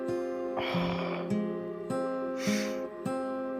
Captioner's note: sighs